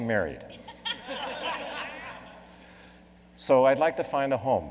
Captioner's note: laughing